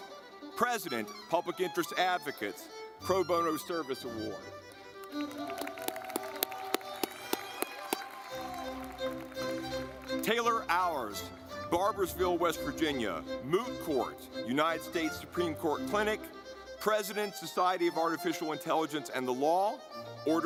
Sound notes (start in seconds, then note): 4.7 audience clapping; 4.7 lively music